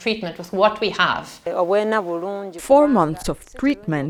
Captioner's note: speaking in foreign language